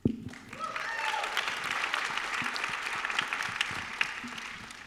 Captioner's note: applause